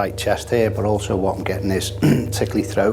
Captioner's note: clears throat